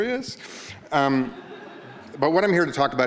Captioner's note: audience laughing